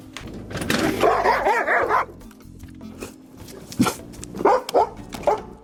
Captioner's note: dogs excitedly barking